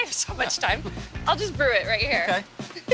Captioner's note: chuckles